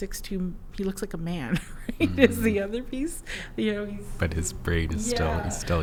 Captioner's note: laughs